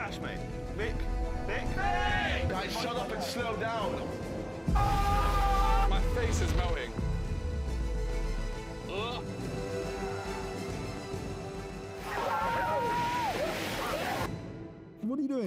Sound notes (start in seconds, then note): 7.1 groans